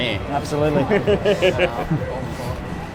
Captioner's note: chuckles